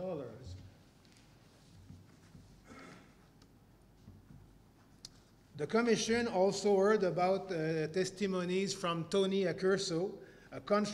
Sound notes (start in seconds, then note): 2.6 cough